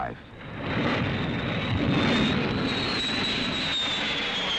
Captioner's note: planes roaring